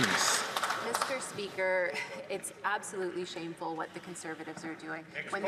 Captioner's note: some Applause